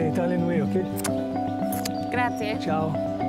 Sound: kissing cheeks

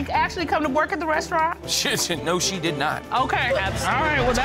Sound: spluttering

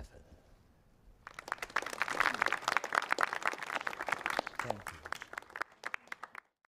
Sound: applause

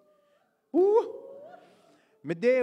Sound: hoots

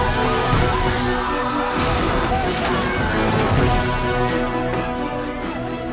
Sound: screams

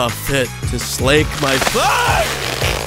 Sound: screams

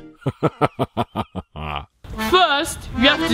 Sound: laughs

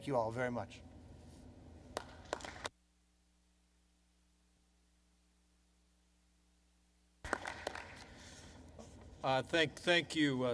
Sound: applause

